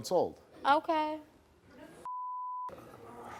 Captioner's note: beep